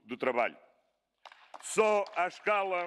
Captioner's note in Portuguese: Aplausos